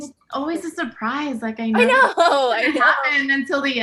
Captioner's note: laughs